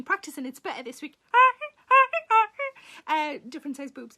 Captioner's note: Sarah imitates horn